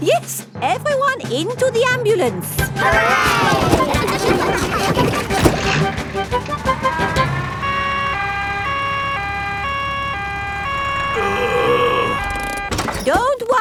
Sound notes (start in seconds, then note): 2.7 giggling; 8.2 siren wailing; 10.6 groaning